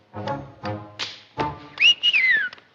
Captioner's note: jazz music starts; whistles